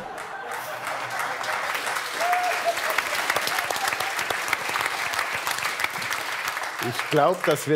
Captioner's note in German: Applaus